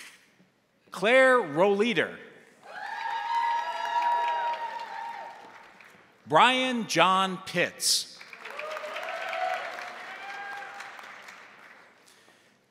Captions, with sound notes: Claire Rowleader. (crowd applauding) (crowd cheering) Brian John Pitts. (crowd applauding) (crowd cheering)